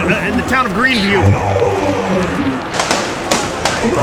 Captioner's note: yelling